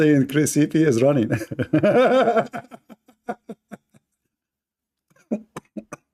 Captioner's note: Ketawa